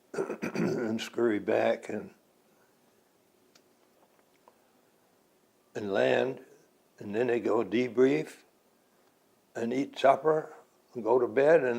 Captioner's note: clears throat